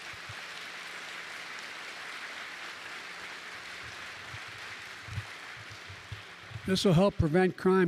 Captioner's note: applause